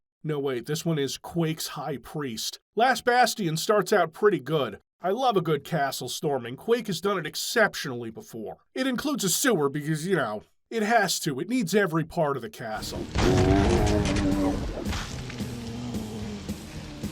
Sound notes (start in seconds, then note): 12.8 zombie groan